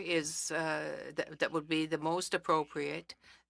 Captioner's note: speaking French